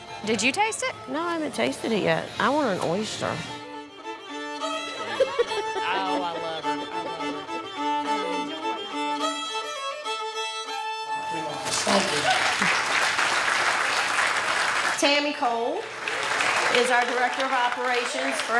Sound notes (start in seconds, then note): 4.8 people laughing; 6.7 upbeat music; 11.3 audience applauding